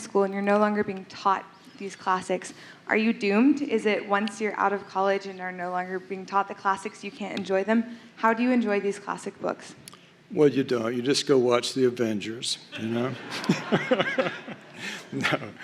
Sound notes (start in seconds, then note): 10.5 sarcastically; 12.8 laughter